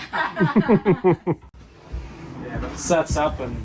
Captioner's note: both laughing